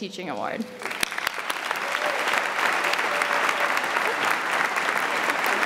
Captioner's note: audience applauds